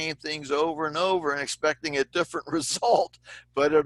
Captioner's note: laughter